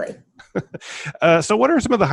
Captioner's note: laughing